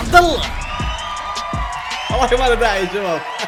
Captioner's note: cheering